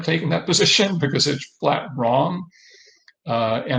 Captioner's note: laughs